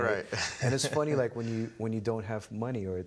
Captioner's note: laughing